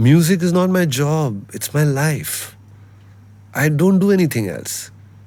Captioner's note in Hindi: नाक से की जाने वाली आवाज़